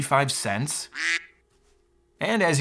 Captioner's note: duck quacks